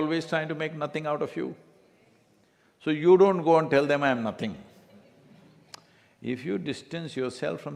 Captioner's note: few laugh